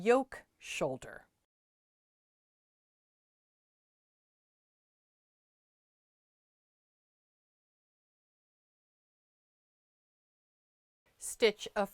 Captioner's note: no Sound Present